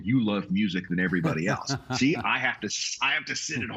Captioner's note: laughing